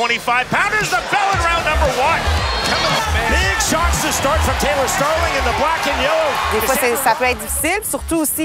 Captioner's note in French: commentaire en anglais